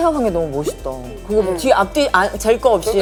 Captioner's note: Munch